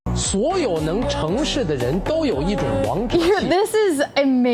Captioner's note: person speaking foreign language